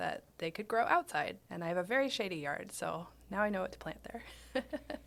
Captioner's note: laughing